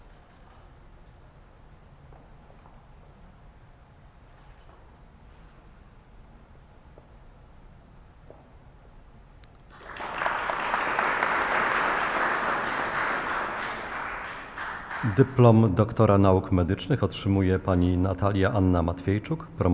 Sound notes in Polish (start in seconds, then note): 9.7 oklaski